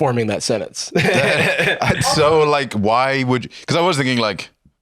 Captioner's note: laughs